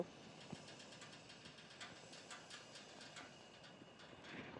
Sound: burner cranking

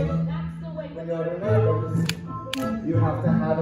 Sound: snap

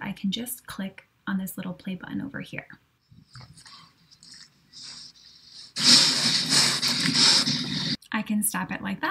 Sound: hits play button and heavy labored breathing sound begins

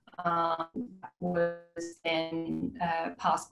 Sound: audio distorts

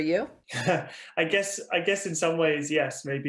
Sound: Freddie laughs

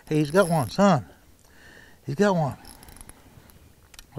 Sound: reel cranking

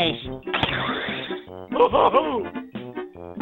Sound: laughing

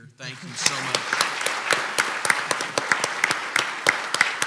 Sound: clapping

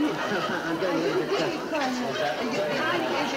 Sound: people chattering

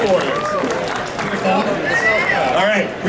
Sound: audience cheering

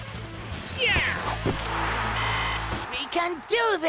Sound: buzzer buzzing

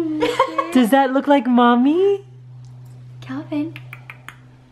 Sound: voiceover

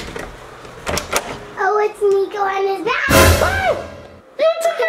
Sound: screeches

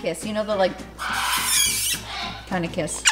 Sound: prolonged lips smacking

